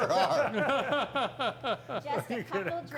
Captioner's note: men laughing